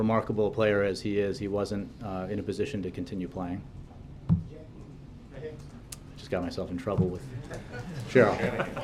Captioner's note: laughter